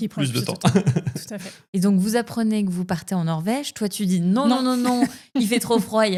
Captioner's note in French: rires